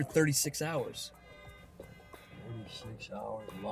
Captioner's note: horn blaring